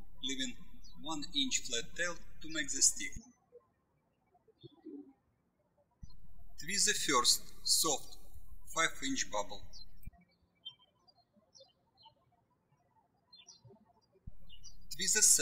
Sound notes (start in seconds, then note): 3.4 birds chirping; 10.5 birds chirping